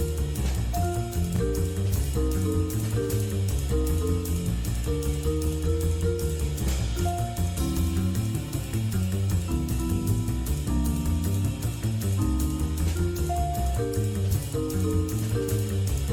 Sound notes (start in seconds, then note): none